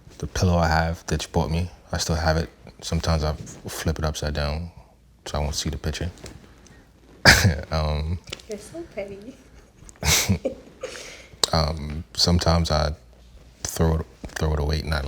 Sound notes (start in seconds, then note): 7.3 laughs; 10.0 both laughing